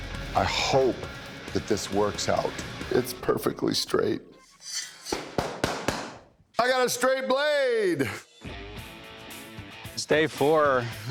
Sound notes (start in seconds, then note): 5.3 clapping